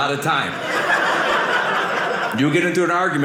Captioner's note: audience laughing